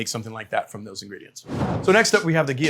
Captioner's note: graphic whooshing